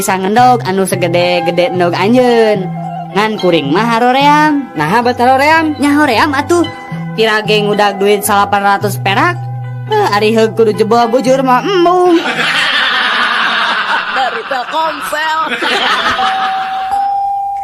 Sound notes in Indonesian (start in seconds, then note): 12.1 tertawa